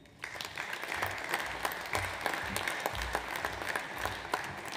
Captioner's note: audience applauds